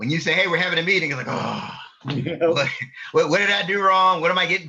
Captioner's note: sighs